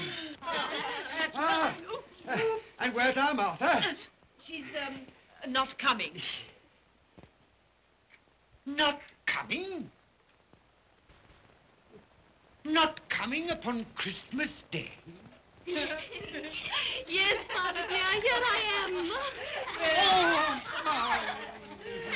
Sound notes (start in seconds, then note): 0.0 giggling; 15.7 children giggle